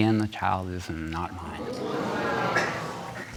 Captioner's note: audience gasps